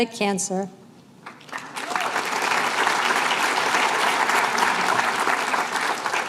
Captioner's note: applause